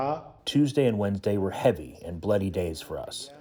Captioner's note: through translator